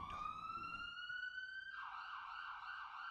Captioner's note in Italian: sirene udibili